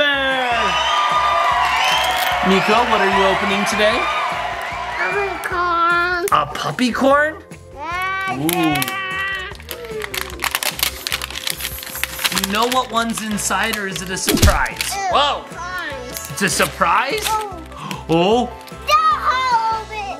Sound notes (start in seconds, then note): 0.0 audience cheering; 8.2 plastic crackling; 14.3 fist bangs